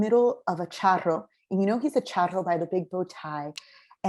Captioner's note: spanish